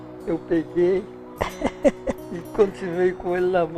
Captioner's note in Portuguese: risos